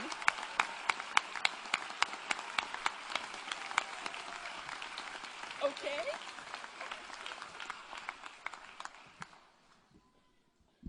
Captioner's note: applause